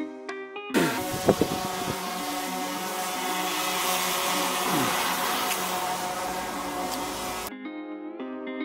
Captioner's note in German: drohnengeräusch